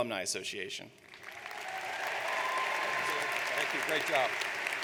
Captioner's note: audience applauds